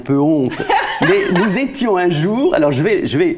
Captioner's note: laughters